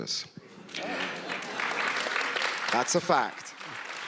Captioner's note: audience applauds